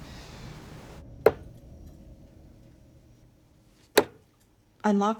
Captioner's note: darts thudding